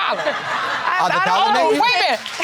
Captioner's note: audience laughing